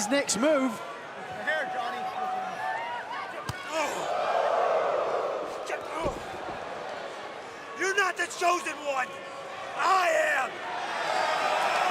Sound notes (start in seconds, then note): 4.3 crowd chatter; 11.7 crowd cheering